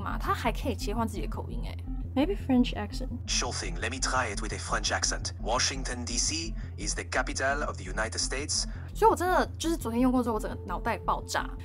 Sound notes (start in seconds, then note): 3.3 French accent in English